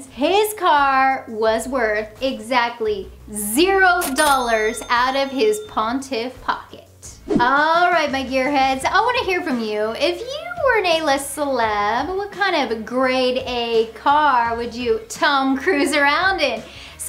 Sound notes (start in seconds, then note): 4.0 cash register dings; 7.2 graphics whoosh